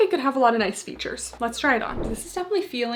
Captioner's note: screen whooshing